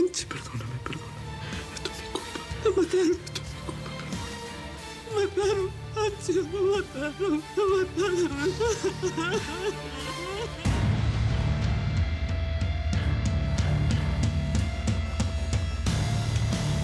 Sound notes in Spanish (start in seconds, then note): 0.0 Sollozando; 4.9 Solloza; 7.4 Llanto de Victoria